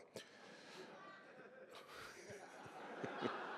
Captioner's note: laughter